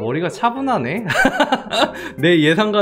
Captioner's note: laughs